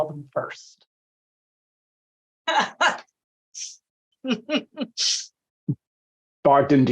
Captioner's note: laughing